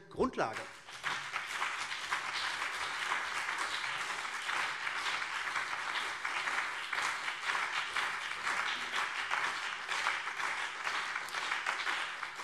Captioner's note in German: Beifall CDU und BÜNDNIS 90/DIE GRÜNEN